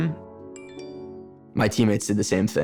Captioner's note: text message dings